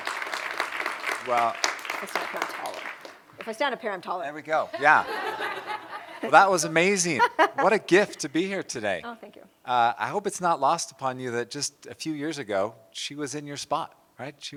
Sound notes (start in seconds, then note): 4.7 laughter